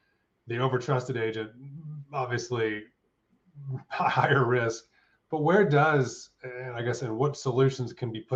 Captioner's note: chuckles